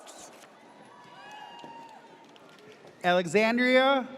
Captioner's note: audience cheers